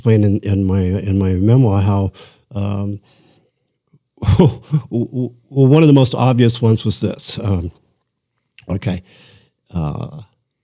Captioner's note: laughter